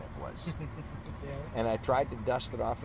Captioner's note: laughs